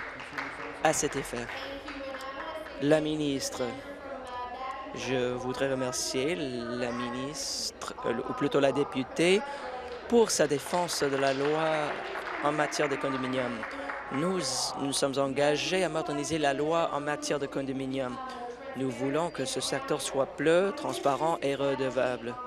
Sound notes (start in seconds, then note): 15.1 applause